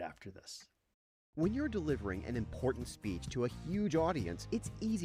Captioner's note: voiceover